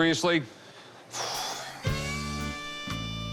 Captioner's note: exhales sharply